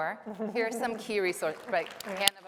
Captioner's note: applause